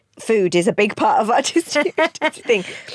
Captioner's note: both laugh